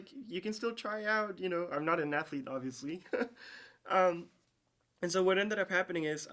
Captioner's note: chuckles